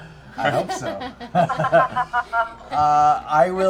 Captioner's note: laughter